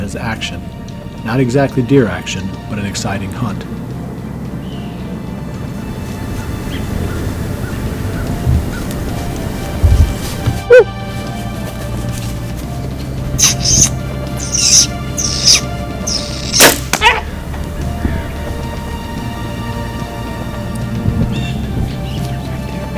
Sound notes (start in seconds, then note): 5.7 soft music; 11.6 sqeaking sound from hunter